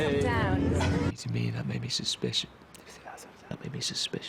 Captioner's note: stutters